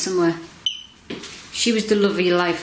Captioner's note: beep